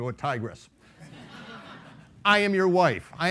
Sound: laughing

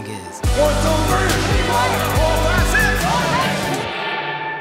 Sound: shouts of encouragement

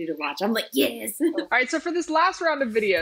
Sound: laughs

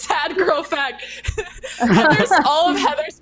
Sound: laughing

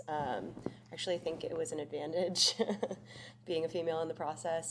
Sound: chuckles

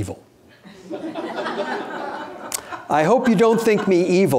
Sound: audience laughing

